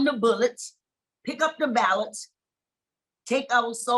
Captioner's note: none